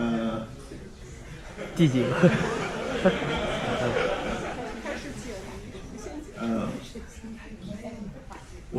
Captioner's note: laughter